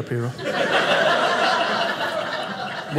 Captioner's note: audience laughing